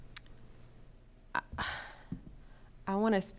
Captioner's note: sighs